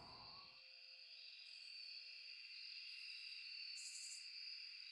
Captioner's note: insects chirping